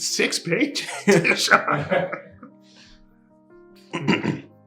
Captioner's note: laughter